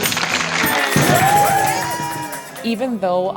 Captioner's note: cheering